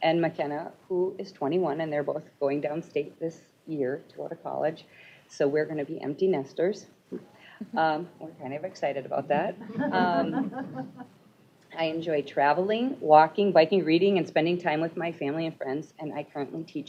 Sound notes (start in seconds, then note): 9.6 laughter